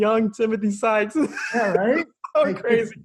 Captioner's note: laughs